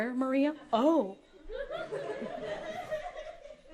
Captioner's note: audience laughter